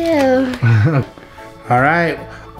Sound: laughs

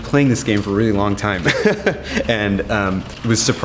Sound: laughs

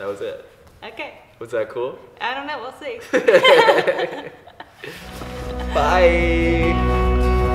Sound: awkward laughter

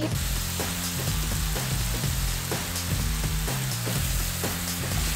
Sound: ingredients sizzling

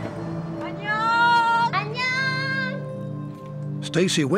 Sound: speaking korean

